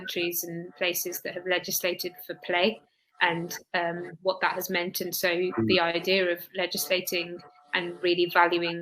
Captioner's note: erm